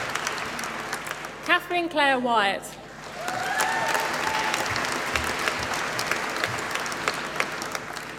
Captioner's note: applause